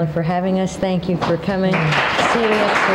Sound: audience applauding

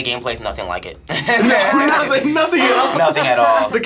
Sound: both laugh

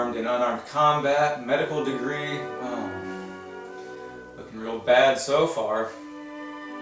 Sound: sarcastically

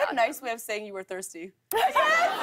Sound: laughter

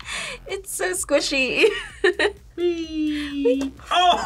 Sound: laughs

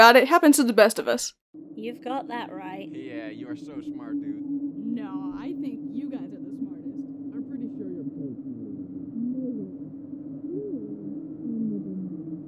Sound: muffled conversation

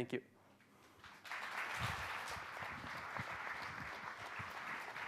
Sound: clapping

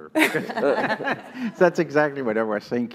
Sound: laugh

